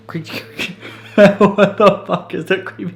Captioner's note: laughs